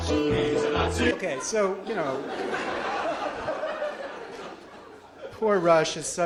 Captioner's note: audience laughs